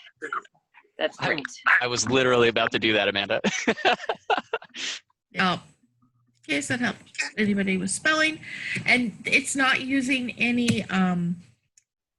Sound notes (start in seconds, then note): 3.4 laughs